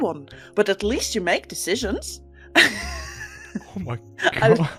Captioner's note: laughs